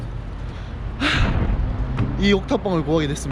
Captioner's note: tired